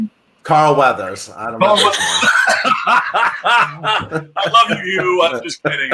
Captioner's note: laughs